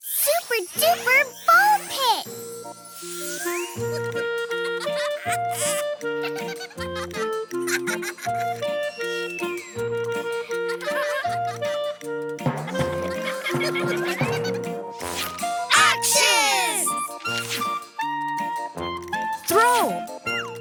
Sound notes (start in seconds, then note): 2.9 laughing; 2.9 lively music